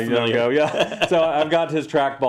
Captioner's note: laugh